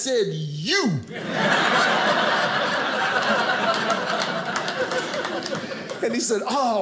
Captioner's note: audience laughing